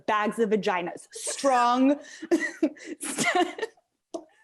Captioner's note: laughs